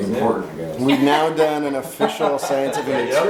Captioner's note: laughing